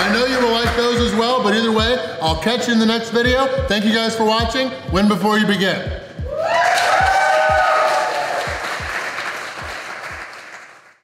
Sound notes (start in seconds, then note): 6.2 crowd; 6.3 clapping and cheering